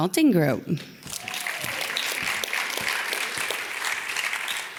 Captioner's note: audience claps